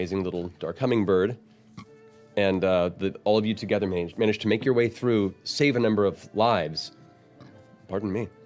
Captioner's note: burps